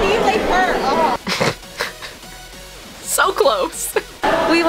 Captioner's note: snort